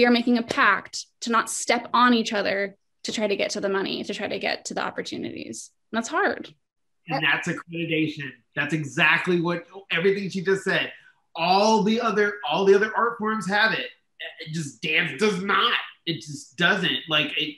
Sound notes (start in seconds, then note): 14.3 stammers